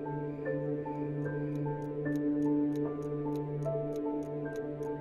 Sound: clock ticking

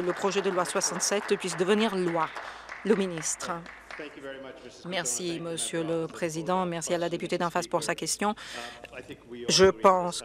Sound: some Applause

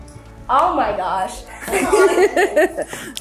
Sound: laughs

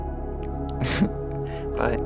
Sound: laughs

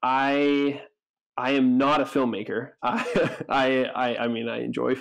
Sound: chuckles

